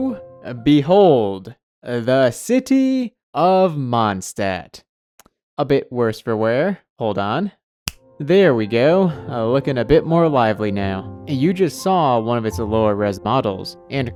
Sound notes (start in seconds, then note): 7.8 finger Snap